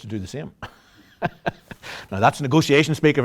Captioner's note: laughter